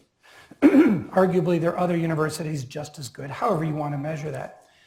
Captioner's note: cough